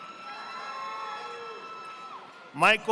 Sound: audience applauding

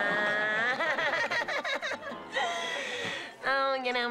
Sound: laughing

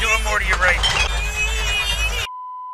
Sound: frustration

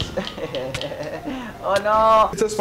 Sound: man laughing

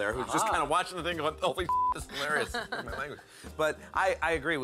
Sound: laugh

